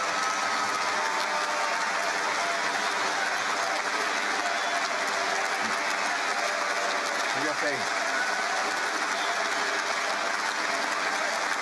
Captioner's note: cheering and Applause